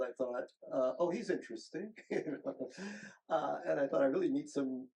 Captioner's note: chuckles